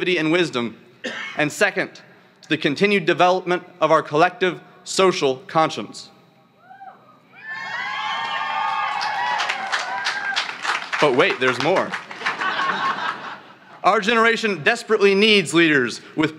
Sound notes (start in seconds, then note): 7.4 cheering; 12.1 laughter